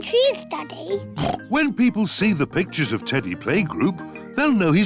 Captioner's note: oinks